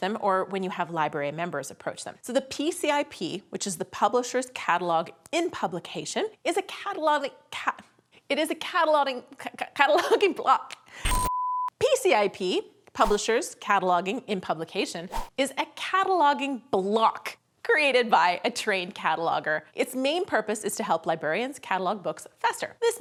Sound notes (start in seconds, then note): 8.2 speaker stutters; 11.1 high pitched tone